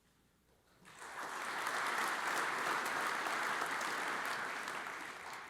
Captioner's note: audience applauds